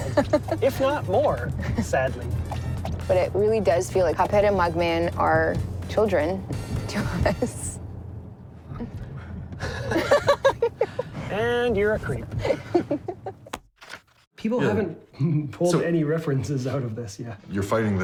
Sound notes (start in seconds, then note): 9.2 laughs